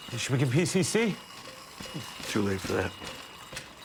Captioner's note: machine beeping